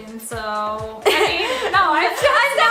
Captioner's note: laughs